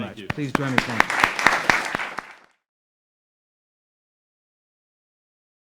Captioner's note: audience applauding